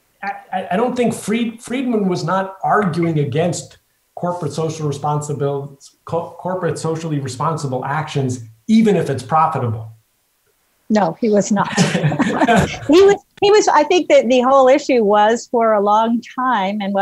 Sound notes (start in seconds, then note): 11.5 laughs